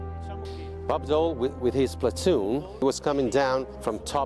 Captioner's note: voiceover